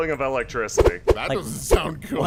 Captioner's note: wooshing sounds